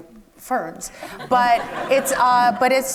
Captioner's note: audience laughs